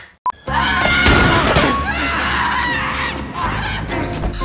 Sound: Enola screams

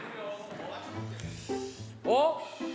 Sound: inhaling

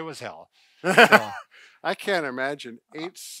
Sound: laughs

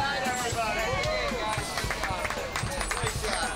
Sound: all cheering

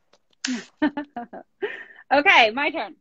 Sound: laughing

